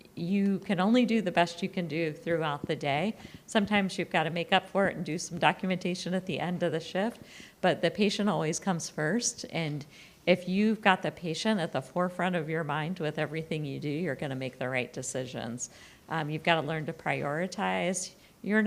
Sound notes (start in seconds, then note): none